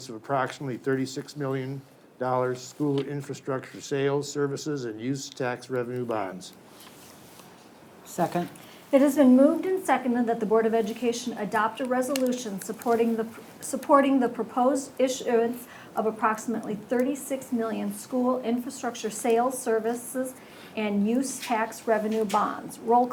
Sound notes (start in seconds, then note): none